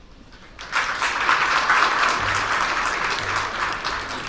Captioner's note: audience applauds